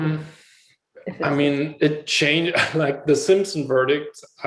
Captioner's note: laughs